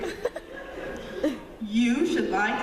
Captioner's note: laughter